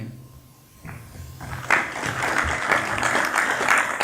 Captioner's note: applause